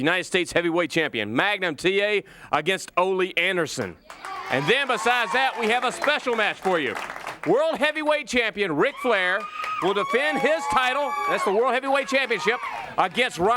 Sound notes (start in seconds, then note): 4.0 crowd cheering